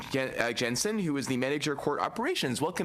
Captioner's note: speaking French